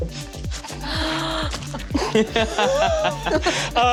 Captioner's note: gasps